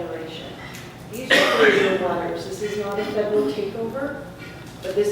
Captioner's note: cough